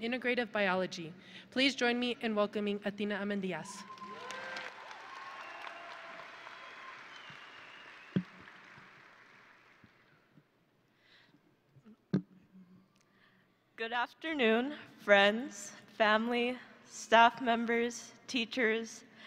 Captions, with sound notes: in Integrative Biology. Please join me in welcoming Athena Amindyas. (audience and graduates cheering) (audience and graduates applauding) - Good afternoon, friends, family, staff members, teachers,